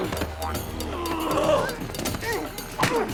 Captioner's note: groaning